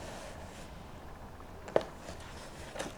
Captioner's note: Sounds of Vanny taping the box